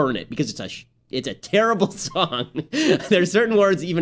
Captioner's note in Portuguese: risos